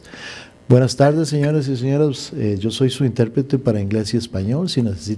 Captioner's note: speaking in Spanish